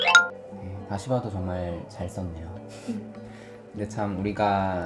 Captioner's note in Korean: 웃음